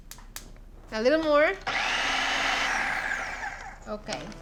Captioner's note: whirring